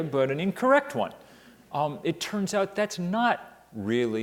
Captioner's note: none